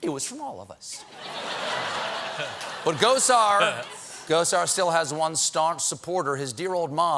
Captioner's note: laughter